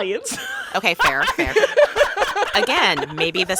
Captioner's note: laughter